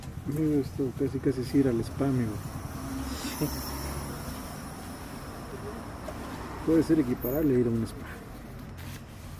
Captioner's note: laughs